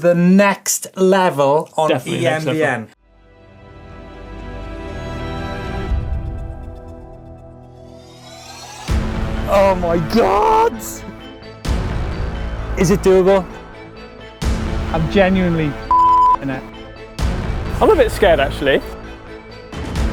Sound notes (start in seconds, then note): 15.8 beep noise